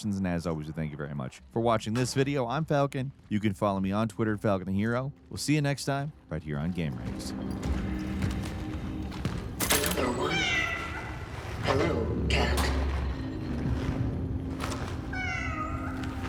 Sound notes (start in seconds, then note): 8.3 somber music; 10.7 cat meowing